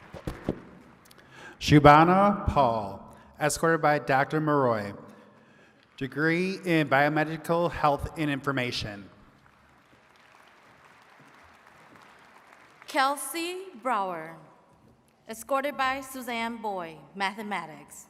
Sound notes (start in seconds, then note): 9.2 attendees clapping